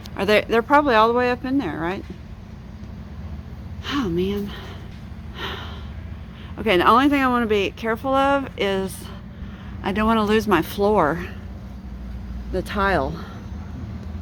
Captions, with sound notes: are they...they're probably all the way up in there, right? Oh man. [Sigh] Okay the only thing I want to be careful of is I don't want to lose my floor...the tile.